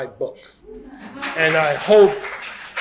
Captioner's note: applause